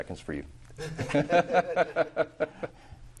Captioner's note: laughter